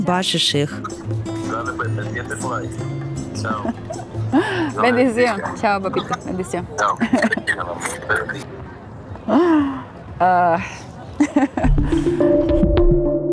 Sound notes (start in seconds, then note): 4.0 laughs